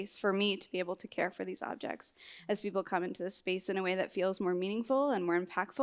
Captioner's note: none